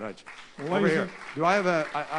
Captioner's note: applause